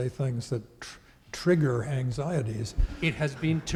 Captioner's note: audience laughing